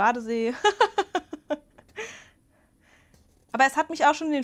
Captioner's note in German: Gelächter